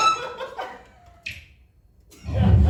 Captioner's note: Wii click sound; universe shifting sound